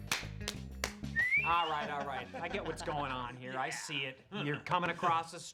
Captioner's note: both whistle